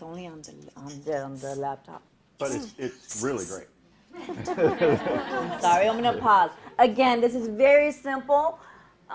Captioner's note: laughing